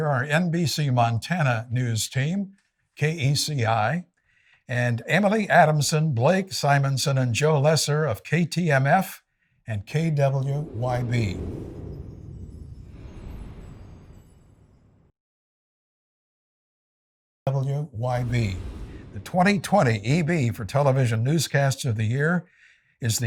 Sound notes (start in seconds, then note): 10.6 wind whooshing; 11.4 bells chiming